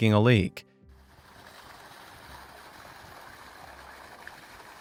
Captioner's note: water flows loudly